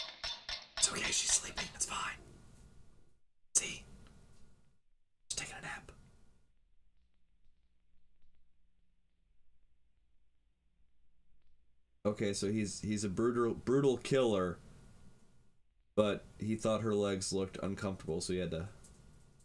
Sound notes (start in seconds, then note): 2.5 whisper